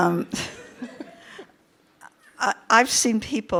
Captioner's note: participants laugh